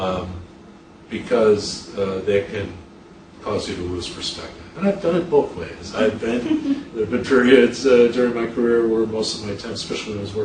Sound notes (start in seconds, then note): 6.0 interviewer chuckles